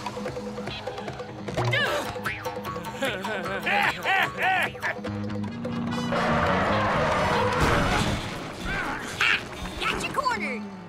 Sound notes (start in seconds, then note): 2.6 laughing